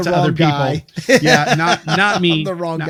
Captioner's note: laughs